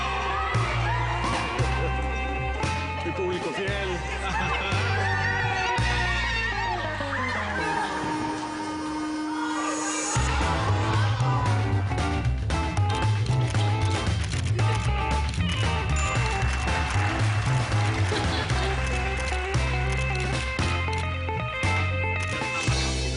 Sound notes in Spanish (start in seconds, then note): 5.3 Gritos y exclamaciones; 13.0 Clic de cámaras